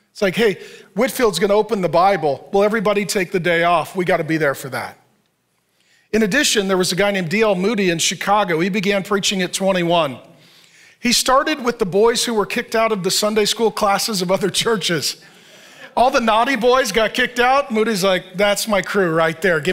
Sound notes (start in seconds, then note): 15.3 chuckles